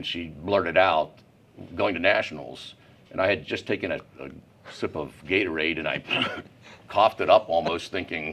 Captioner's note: makes coughing sound